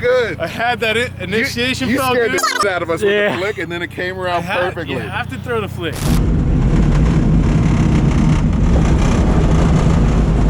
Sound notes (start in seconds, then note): 2.3 fast forward sound; 6.8 driving sound